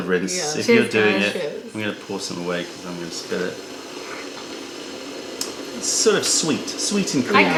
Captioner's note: sips tea; sips tea